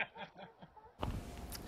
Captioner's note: laughter